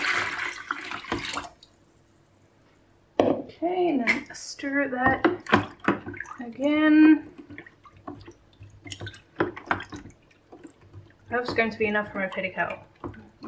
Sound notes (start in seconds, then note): 0.7 sound of wooden spoon stirring in plastic tub